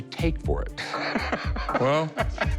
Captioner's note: laughs